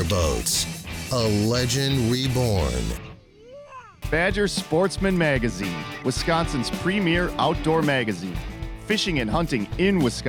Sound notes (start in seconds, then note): 4.0 squeals; 5.4 voiceover